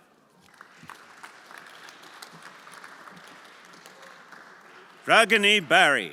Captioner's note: everyone applauding